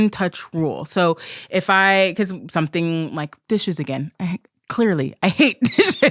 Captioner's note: stammering